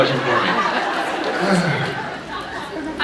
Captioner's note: sighs; laughs